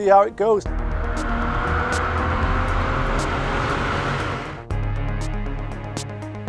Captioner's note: engine accelerating; dramatic electronic music